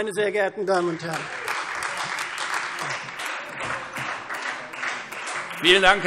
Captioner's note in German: Beifall